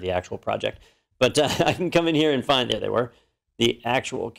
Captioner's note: laugh